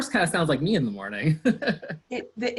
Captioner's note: laughs